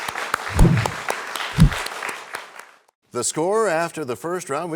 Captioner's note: applause